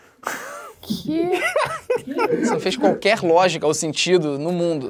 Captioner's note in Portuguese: risadas